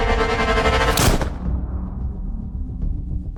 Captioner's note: gunshot